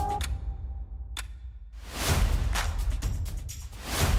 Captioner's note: clock ticking